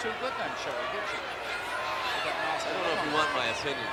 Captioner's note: crowd clamoring